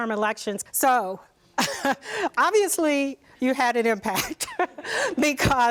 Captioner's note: laughs